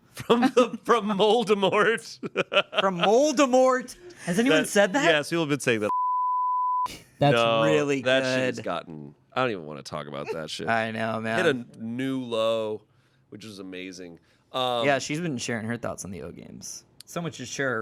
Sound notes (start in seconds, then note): 2.2 everyone laughs; 5.9 beep